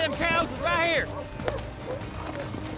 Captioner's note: hoofbeats